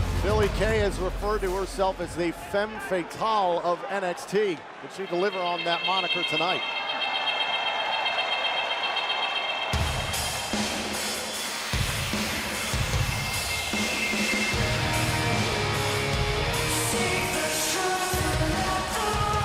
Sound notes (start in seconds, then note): 7.8 crowd cheering